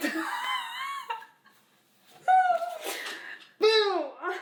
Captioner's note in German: Mama lacht